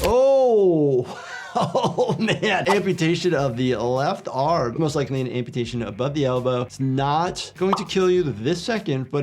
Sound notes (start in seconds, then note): 1.2 laughs